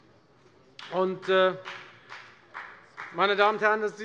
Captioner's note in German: Beifall bei der FDP